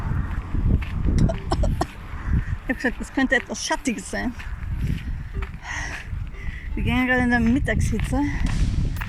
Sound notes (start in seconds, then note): 0.0 Traffic; 1.4 coughing